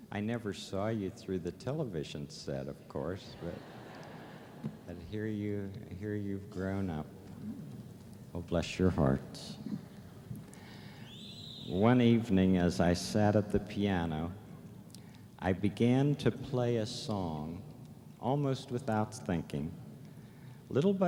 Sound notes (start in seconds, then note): 8.1 whistle